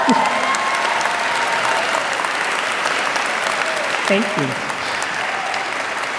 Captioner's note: applause